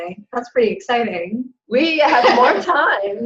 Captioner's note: laughs